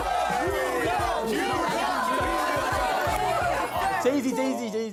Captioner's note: Everyone shouting "New York" together all of a sudden